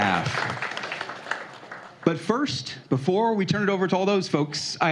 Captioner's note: applause